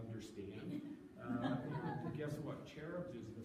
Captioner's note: audience laughing